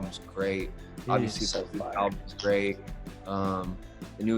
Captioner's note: audio breaks